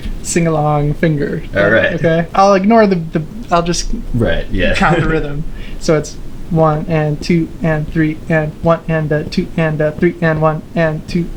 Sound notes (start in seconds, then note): 3.4 irrational time signature speaking